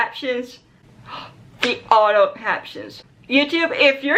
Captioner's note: gasp